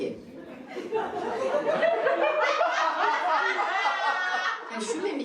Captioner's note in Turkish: Gülüşmeler